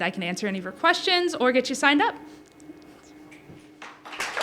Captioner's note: applause